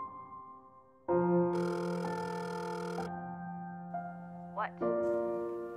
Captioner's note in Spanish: Teléfono sonando... llamando a Liz